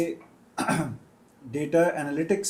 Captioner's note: गला साफ़ करने की आवाज़